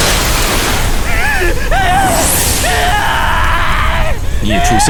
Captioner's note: ghostly whispers/Gasps